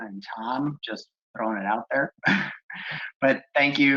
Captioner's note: laughs